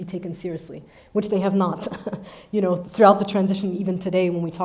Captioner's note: chuckles